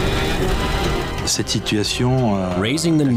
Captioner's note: speaking in French